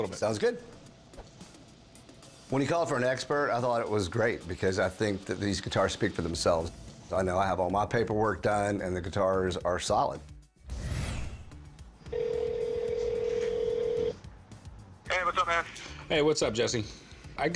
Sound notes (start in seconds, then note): 12.0 phone ringing